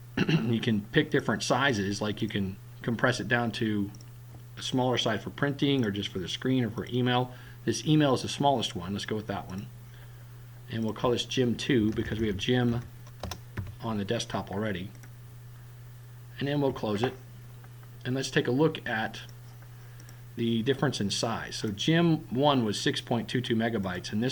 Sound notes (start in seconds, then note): 3.9 click; 10.8 click; 13.1 typing; 14.9 click; 20.0 click